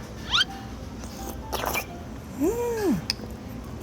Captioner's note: the sound of slurping up tofu